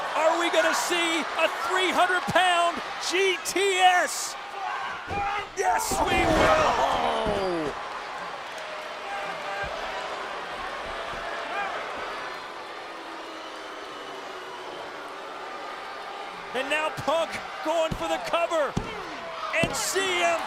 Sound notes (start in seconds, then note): 7.6 applause